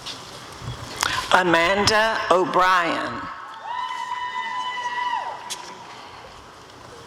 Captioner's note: applause and cheering